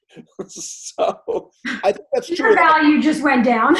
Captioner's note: laughs